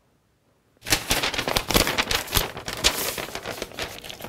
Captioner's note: loud rustling